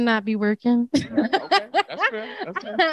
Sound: laughs

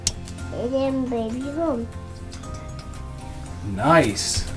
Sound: whispered babbling

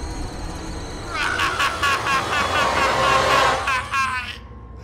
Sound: screaming

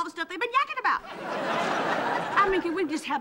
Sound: laughing

